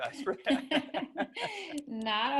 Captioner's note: laughs